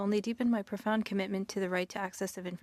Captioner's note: speaking French